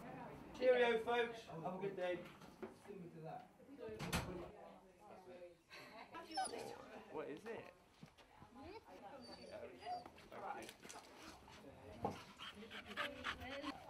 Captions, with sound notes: Cheerio folks. Have a good day. [Dog whines] [Another dog whines] [Another dog pants]